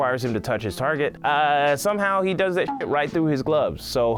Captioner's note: beep